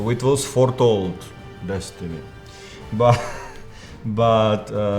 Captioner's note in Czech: smích